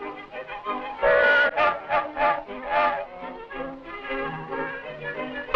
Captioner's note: whistles blowing